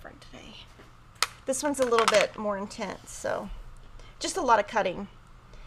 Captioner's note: tools clatter